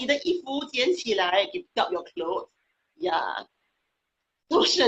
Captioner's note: speaking foreign language